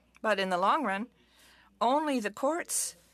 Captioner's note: speaking french